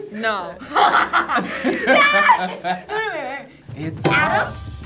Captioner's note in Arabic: كلاهما يضحك